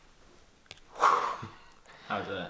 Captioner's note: exhaling